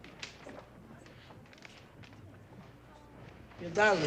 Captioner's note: light chatter